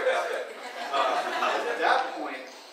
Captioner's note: audience laughing